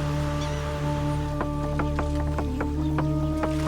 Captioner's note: sharp clacks